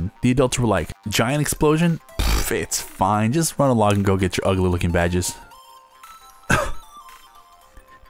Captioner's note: cough